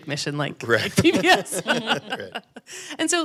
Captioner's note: panel laughing